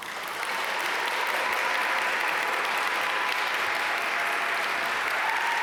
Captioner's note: audience cheer and applaud